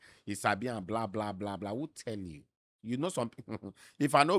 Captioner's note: chuckles